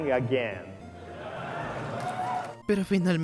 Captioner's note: audience applause